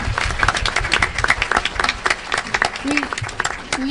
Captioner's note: audience applause